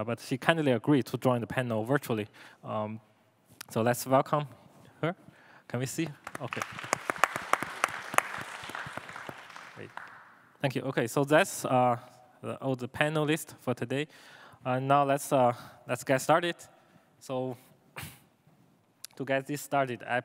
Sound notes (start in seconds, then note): 6.1 audience applauding